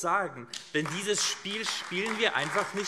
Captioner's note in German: Beifall AfD